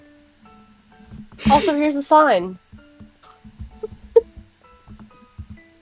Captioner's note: giggles